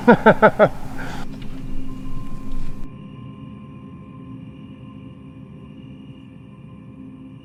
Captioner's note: laughing; crickets chirping; eerie music